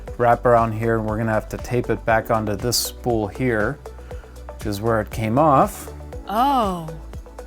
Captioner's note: female voice: ohhh